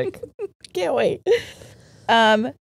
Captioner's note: laughs